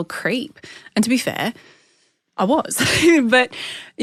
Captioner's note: laughs